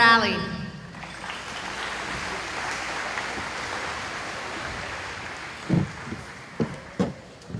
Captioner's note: applause